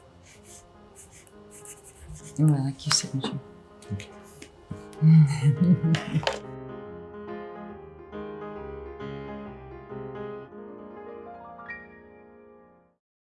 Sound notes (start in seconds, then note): 0.1 pencil scratching; 5.0 Angelina laughing; 5.8 pencil tapping; 7.3 bright music continues